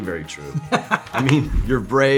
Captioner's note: Ralph laughs